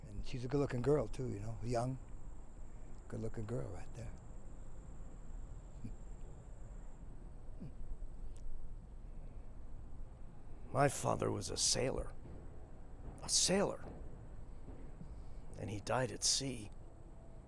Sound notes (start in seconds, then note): 6.0 Becker chuckles